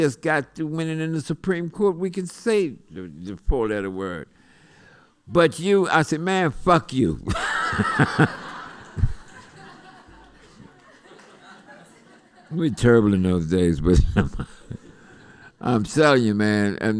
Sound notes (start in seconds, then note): 7.2 laughter